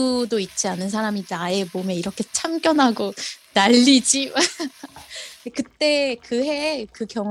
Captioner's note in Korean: 웃음